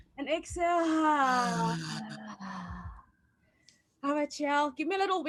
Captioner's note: exhaling audibly